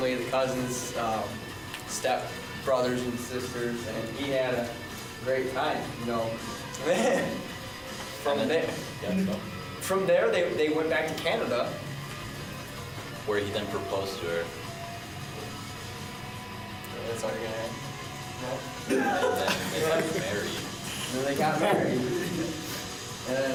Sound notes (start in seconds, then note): 6.8 laughs